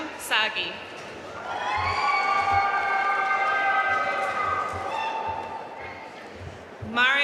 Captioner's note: audience cheering and applauding